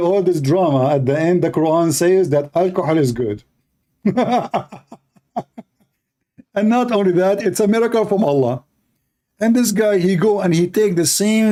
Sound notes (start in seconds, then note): 3.9 Ketawa